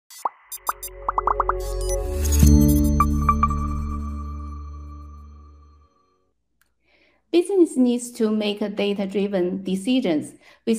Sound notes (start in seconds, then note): 0.1 graphics popping; 0.1 graphics beeping; 2.3 bright music; 2.3 logo chimes